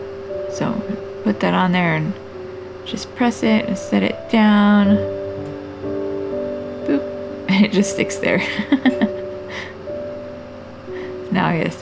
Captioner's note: laugh